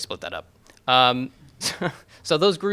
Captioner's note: chuckles